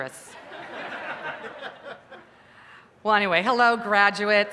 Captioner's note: laughter